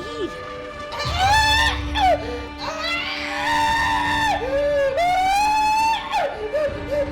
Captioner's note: tense music; pizza man screaming